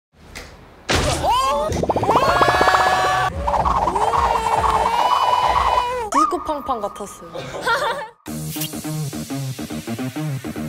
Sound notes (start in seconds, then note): 0.9 slam